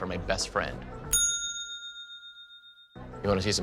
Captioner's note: bell chiming